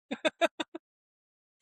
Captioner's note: laughing